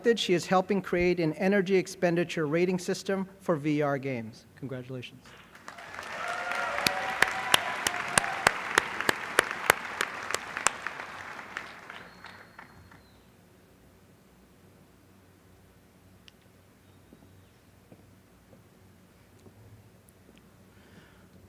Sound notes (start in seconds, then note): 5.2 applause